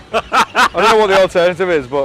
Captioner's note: people laughing